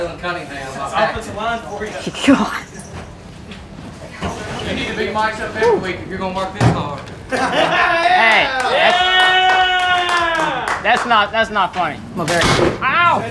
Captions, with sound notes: Seth. Jalen Cunningham. God. You need to be mic'd up every week if you're going to work this hard. [laughter] Hey. That's not - that's not funny.